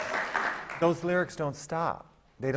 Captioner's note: applause